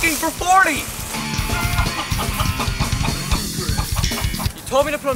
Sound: upbeat metal music; chicken clucking

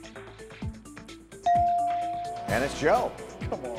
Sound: bell chimes

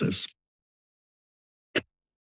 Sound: pause

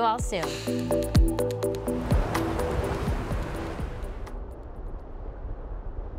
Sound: upbeat music ends; wind whooshing

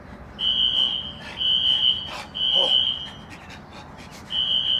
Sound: Herman panting

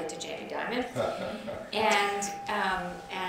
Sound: chuckles

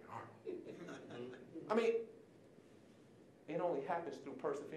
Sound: audience chuckling

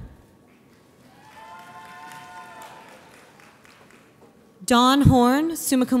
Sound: audience applauds

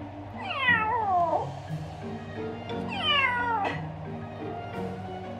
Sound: cat meowing

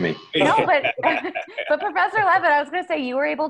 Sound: panelists laughing

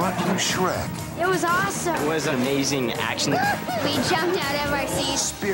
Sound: kids talking

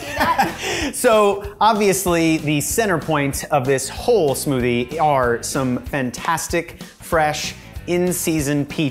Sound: laughs

